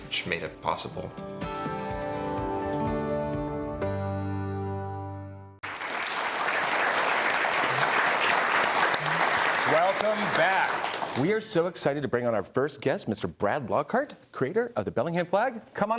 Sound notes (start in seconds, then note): 1.2 upbeat music; 5.6 audience applauding